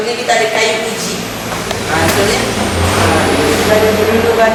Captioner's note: turbulent winds